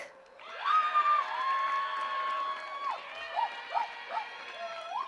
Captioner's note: attendees cheering and clapping